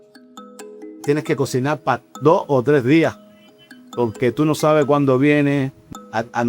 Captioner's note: speaker speaking in Spanish